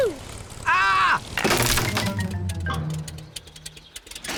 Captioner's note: crunching